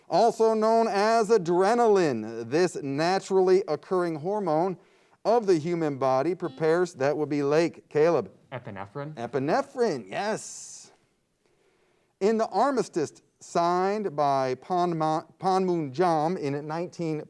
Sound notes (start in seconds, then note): 6.4 buzzer beeps